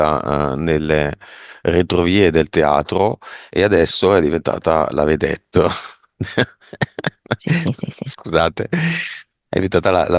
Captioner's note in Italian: risate